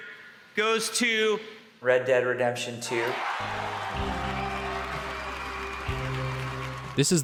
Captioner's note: Crowd cheers and applauds, Red Dead Redemption 2 music plays